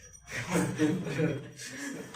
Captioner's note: laughing